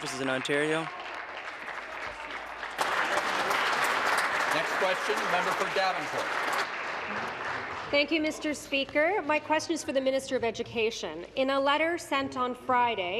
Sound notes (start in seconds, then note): 4.9 applause